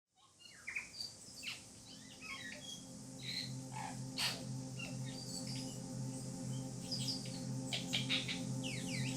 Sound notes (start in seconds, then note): 0.7 birds chirping